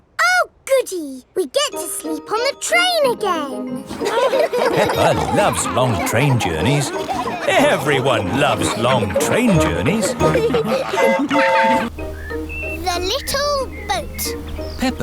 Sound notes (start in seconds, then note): 4.1 laughing; 11.0 train whistle toots